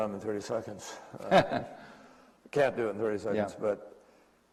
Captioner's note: laughter